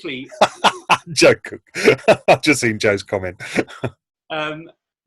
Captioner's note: laughing